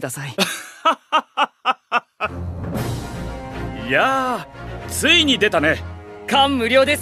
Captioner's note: laughs